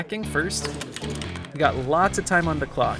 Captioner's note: keyboard clacking